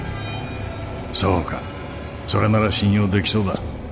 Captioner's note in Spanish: none